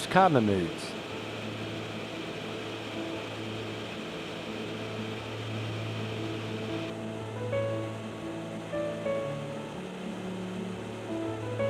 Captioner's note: aircraft sounds and music background